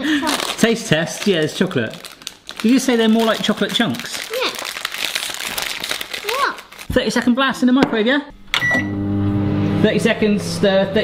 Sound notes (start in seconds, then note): 4.9 packet rustling; 8.4 microwave beeping; 8.4 microwave whirring; 8.6 button clicking